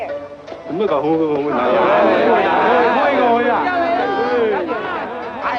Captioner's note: speaks foreign language